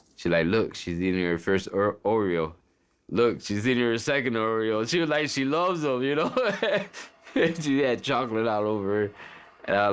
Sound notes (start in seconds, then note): 6.1 laughs